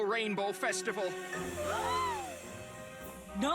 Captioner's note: all gasp